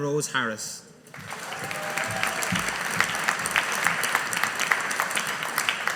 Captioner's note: audience applauding